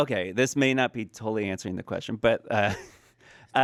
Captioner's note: laughs